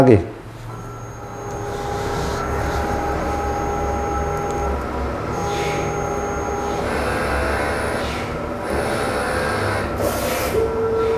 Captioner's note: printer machine noise